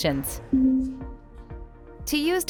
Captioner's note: vehicle beeping